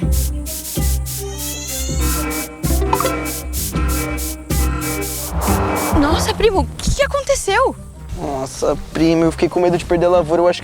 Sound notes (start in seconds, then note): 1.7 alarm